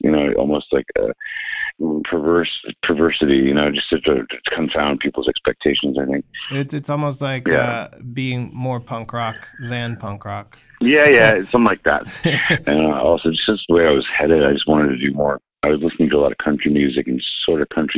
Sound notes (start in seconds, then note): 12.0 laughter